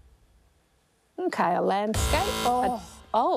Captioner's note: buzz!